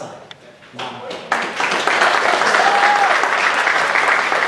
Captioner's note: applause